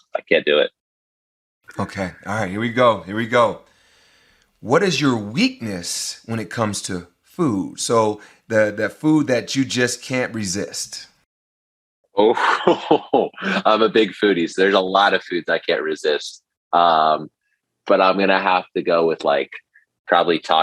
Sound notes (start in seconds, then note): 12.2 laughs